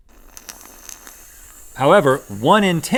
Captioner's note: wet slurps